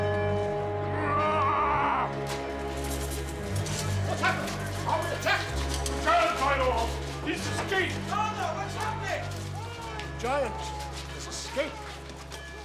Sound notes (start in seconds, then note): 0.1 bells tolling; 1.4 yelling